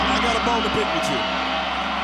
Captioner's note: bell ringing